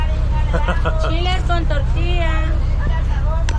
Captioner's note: giggling